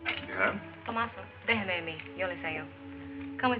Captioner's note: in Spanish